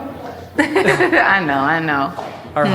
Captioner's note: giggles